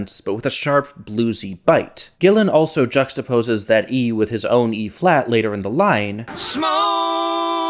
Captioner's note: bang